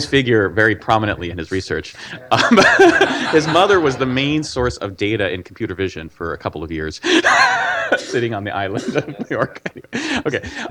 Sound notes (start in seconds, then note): 1.8 laughs; 7.0 laughs